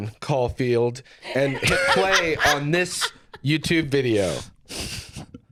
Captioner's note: laughs